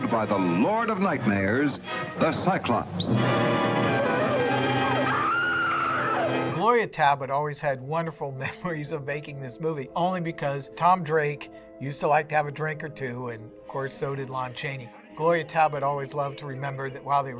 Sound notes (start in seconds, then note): 3.3 dramatic music; 5.6 screaming